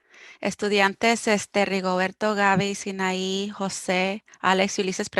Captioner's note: speaking foreign language